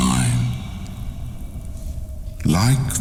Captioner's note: cave noises